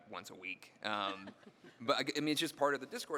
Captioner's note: panelists laughing